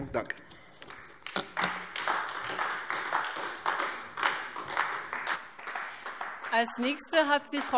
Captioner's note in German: Beifall AfD